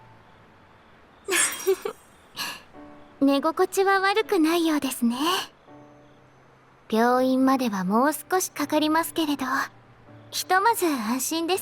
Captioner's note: laughs